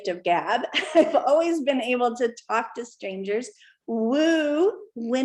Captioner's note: laughter